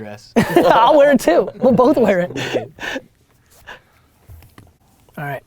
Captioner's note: laughs